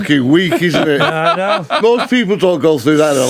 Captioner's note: laughing